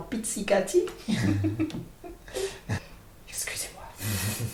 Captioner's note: laugh